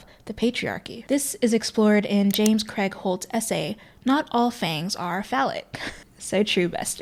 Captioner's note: dry laugh